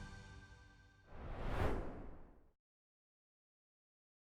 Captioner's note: gentle music; swoosh